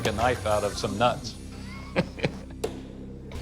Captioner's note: laughs